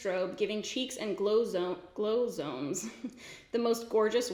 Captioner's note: giggles